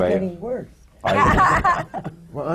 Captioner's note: laughter